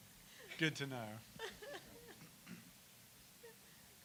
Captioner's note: laughter